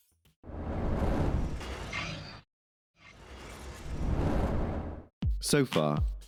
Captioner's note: mechanical noise